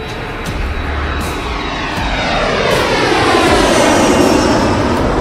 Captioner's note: plane engine roaring